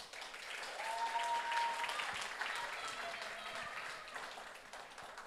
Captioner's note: audience cheers and applauds